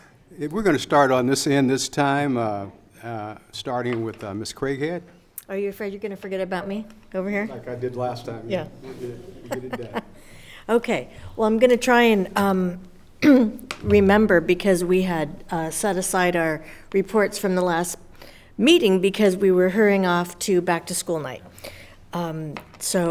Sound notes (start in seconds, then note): 9.3 laughs